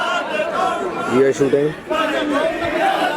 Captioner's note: people Mourning